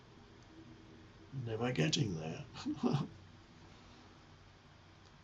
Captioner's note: chuckles